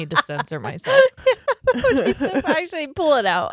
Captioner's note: giggles quickly